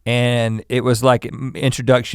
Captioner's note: none